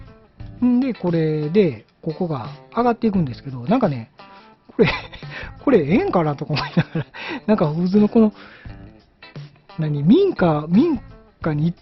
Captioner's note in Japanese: 笑い